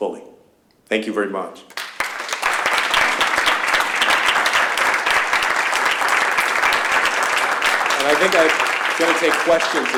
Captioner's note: applause